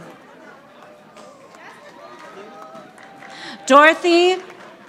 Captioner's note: audience applauding